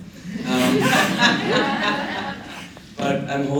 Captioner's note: laughter